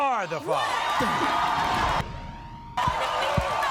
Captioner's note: audience cheers